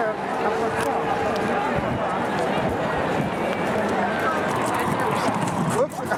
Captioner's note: strong wind blowing